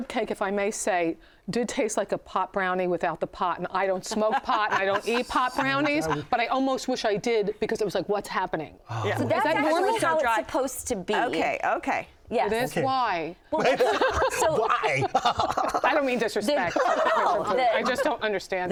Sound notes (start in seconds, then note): 13.6 laughing